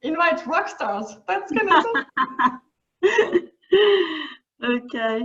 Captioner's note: laughing